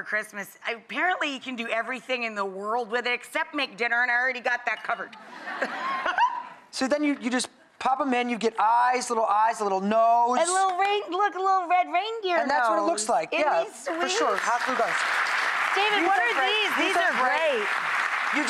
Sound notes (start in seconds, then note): 5.2 audience laughter; 5.5 Rachael laughs